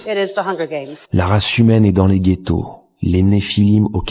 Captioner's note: french dialogue continues